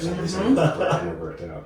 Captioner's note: laughing